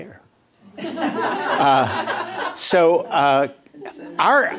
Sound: laughter

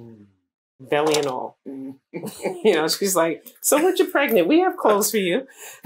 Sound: laughter

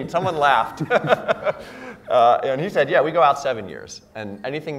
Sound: laugh

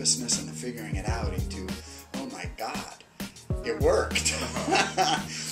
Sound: laughs

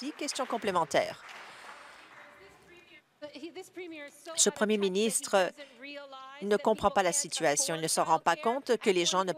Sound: applause

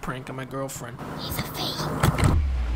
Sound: whispering

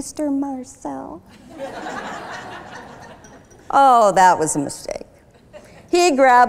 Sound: laughter

